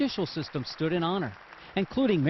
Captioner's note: applause